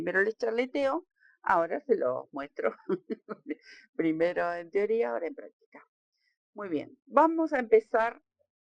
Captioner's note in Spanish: risas